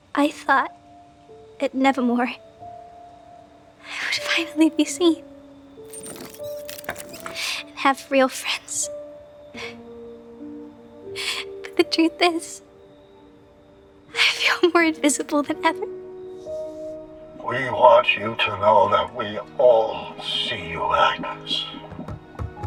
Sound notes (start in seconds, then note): 5.9 things clattering